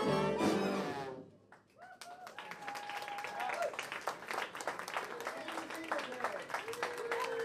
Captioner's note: clapping; cheering